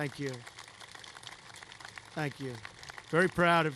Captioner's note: applause